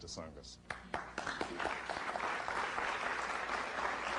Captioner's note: applause